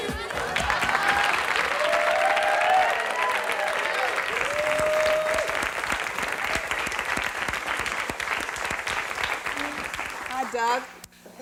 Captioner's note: applause, whoops